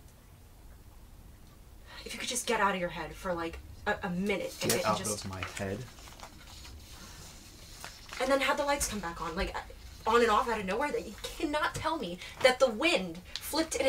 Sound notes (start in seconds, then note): 2.2 sighs